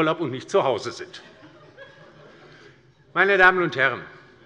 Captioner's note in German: Heiterkeit bei der LINKEN und bei Abgeordneten der SPD